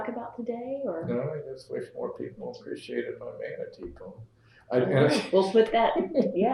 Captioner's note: laughs